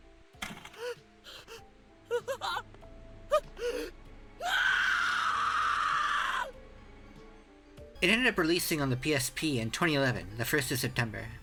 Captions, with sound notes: *Morishige scream* It ended up releasing on the PSP in 2011, the first of September.